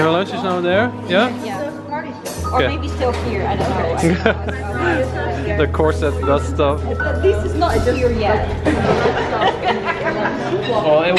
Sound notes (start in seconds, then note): 4.0 laughs; 8.6 laughs